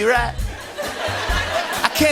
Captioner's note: laughter